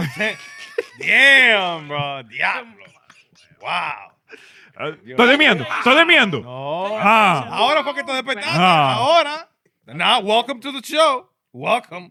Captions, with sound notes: (Laughing) Damn, bro. Yeah. Wow. (Speaking In Foreign Language) Now welcome to the show, welcome.